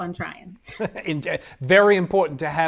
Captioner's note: laughs